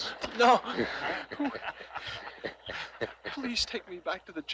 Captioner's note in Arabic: يضحك رجال الشرطة